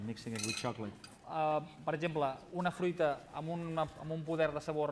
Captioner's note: non-english speech